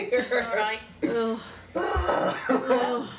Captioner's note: sounds of exasperation